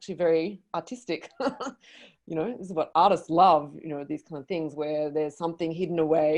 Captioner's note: laughs